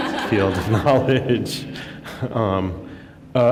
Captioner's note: laughter